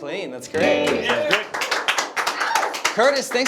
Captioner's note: clapping